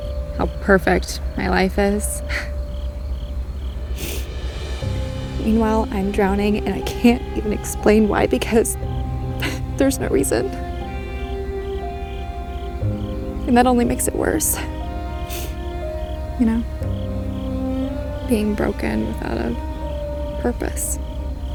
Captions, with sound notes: How perfect my life is. (Sniffles) Meanwhile, I'm drowning And I can't even explain why Because there's no reason. And that only makes it worse. You know, Being broken without a purpose.